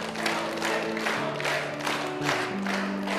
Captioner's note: audience cheering